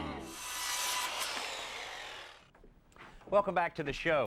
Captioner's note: saw cutting